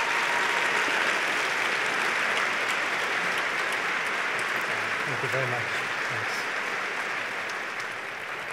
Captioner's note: applause; applause